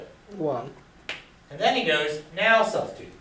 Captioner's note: voiceover